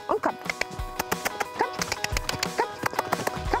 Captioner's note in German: Schnalzen